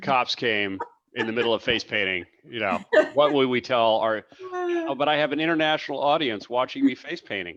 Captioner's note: laughs